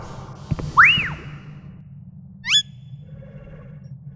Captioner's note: Tali beeps, chirps